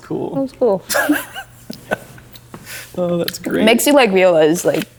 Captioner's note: laughing